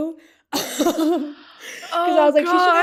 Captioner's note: laughing